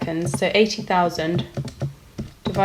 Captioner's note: typing on calculator